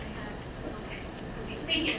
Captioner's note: speaking away from mic